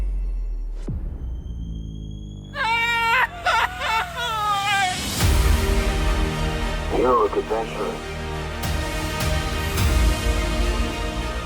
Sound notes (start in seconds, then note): 2.6 Goofy’s signature yell